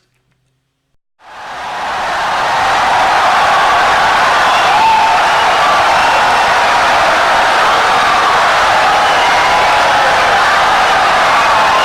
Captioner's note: wild applause and cheering for 17 seconds